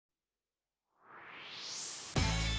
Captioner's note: swoosh